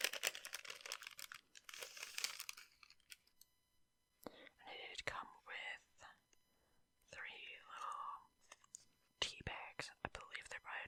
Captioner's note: crinkling sounds